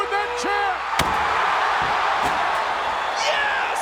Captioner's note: audience cheering; chair thuds